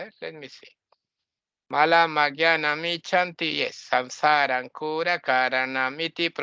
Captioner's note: chanting